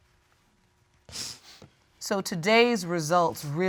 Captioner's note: sniffles